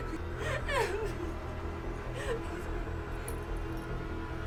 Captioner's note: Emma sobbing